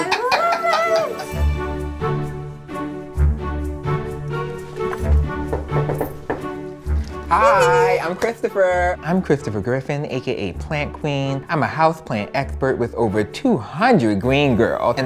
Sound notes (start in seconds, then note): 0.0 laughing; 1.6 inspirational music; 5.1 knocking